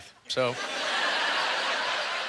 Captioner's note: audience laughter